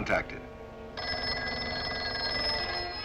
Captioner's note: phone ringing